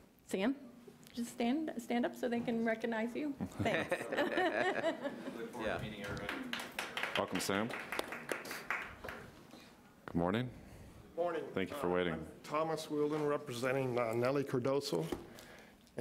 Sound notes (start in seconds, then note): 3.4 audience laughs; 5.7 audience applauds